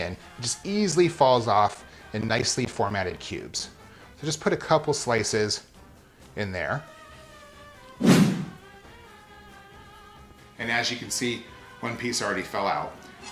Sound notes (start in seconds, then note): 8.0 swooshing